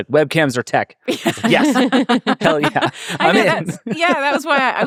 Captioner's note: everyone laughing